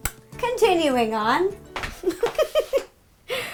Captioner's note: laughs